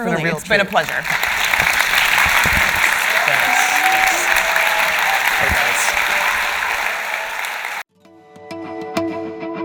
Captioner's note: audience applause